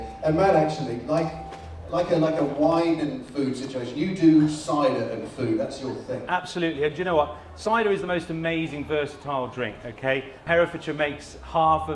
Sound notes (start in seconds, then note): none